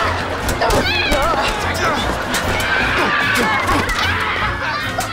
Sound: grunting; screaming

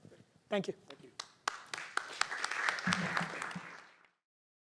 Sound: applause

